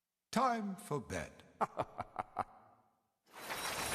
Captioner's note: gentle laughter